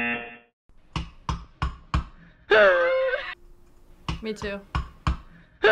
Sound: baby screams

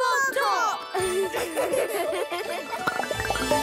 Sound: giggles

